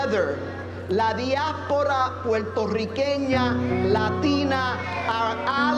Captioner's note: speaking Spanish